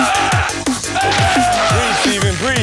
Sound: screams

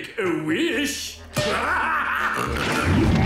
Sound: laughing

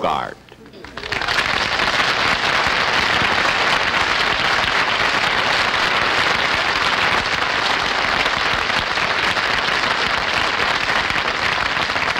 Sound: audience Applauding

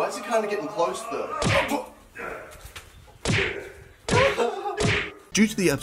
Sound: aggressive punching

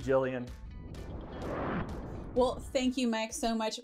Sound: sound wave

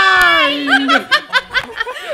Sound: maniacal laughter

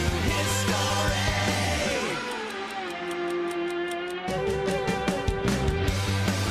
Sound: clock ticking; rock music

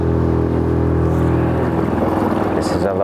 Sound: engine purring

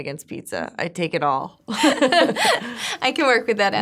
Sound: laughing

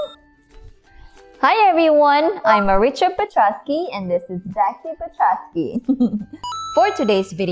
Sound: timer Dings; chuckling; coin flips, Music

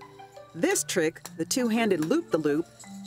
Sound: voiceover

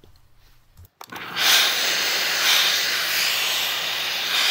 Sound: steam hisses

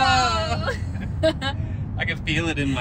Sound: both laughing

